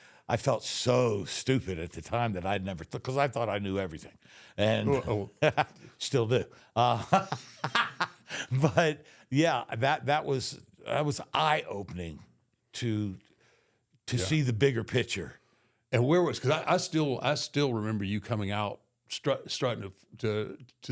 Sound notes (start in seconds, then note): 6.8 Michael laughs; 6.8 laughs